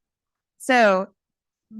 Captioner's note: laughter